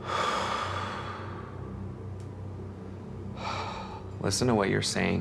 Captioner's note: both breathing deeply